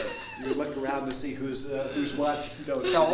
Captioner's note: laughing